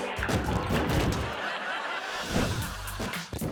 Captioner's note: body thumping